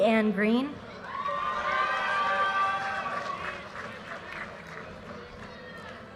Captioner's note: audience cheers and applause